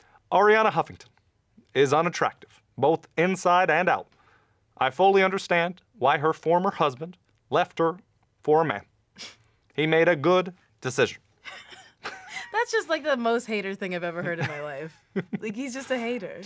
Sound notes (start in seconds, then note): 11.4 laughter